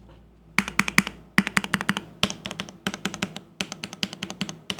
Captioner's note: keyboard clicking